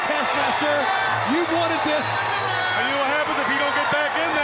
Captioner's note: crowd continued cheering